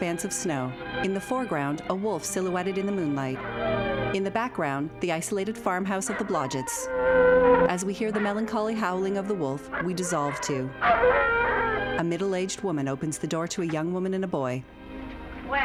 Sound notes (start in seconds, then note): 3.7 wolf howling; 9.4 howling continues